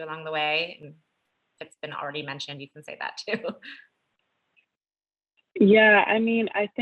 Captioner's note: laugh